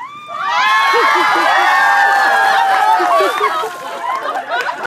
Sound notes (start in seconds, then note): 3.3 cheering